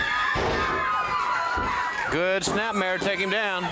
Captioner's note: crowd cheering